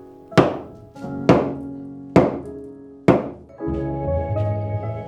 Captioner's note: hammer banging; suspenseful jazz music